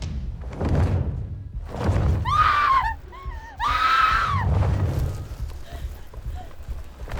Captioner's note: feathers flap; Connie screams